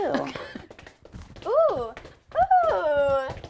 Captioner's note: shoes clicking